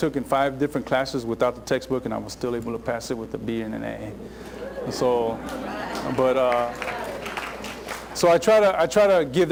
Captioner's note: laughter